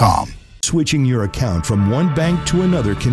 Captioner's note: voiceover